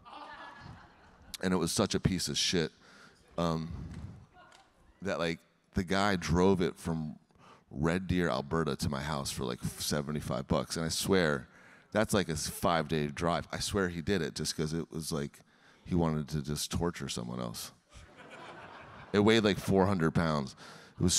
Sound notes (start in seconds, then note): 0.1 audience laughing; 18.0 audience laughing